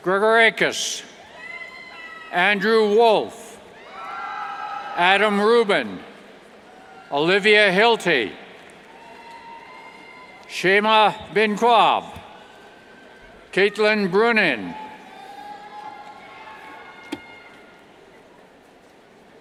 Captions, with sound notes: (indistinct yells) Andrew Wolf, (cheers) Adam Rubin, Olivia Hilty, Shayma binQab, Caitlin Brunin. (cheers)